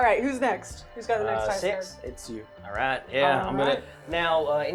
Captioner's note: laughing